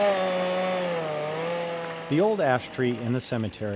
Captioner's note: chainsaw